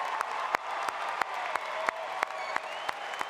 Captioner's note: applause